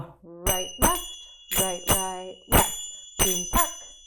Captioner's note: zappers clacking; zappers clacking